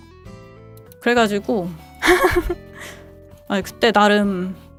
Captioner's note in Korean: 웃음